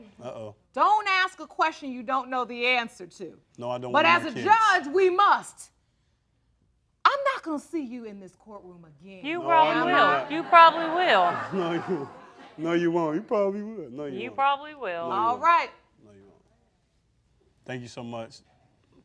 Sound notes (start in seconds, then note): 9.3 laughing